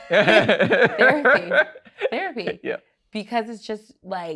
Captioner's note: laughs